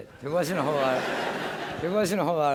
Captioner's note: laughter